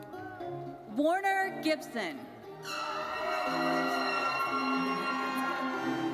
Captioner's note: audience cheers